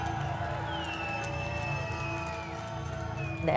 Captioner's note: cheering